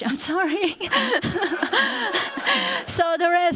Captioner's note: laughter